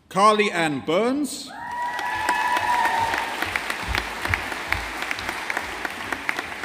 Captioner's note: audience applauding